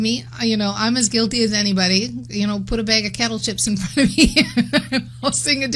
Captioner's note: laughs